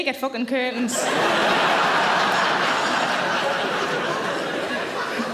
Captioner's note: audience laughter